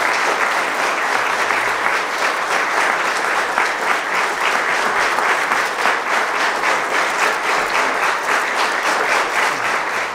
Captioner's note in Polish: Aplauz